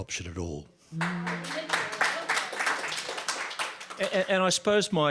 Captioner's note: audience clapping